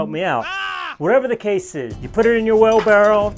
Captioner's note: yelling